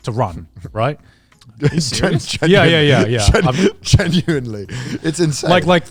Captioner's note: chuckles